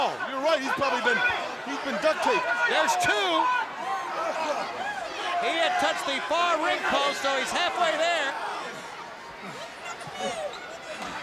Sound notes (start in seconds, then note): 4.2 crowd cheering; 4.2 wrestlers grunting